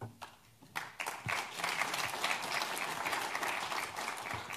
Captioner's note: audience applauds